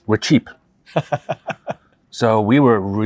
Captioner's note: chuckles